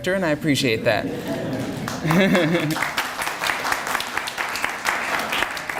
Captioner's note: laughter and applause